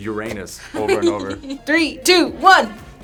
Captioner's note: giggles